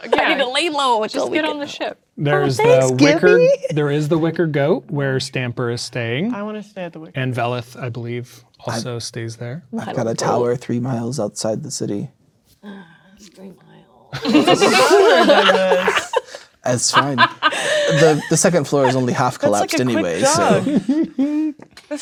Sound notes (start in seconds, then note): 16.6 players laughing